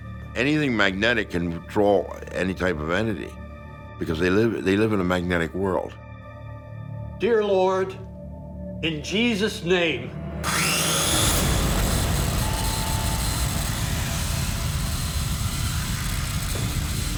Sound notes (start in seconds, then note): 10.4 saw whirling; 10.6 dramatic music